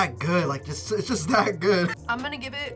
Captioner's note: laughs